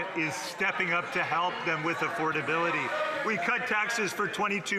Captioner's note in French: voix de l'interprète